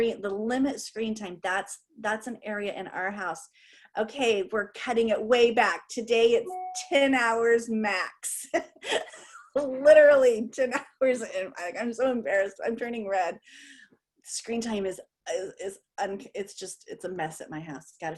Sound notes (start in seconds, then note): 8.8 laughter